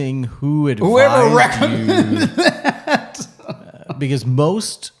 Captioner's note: laughs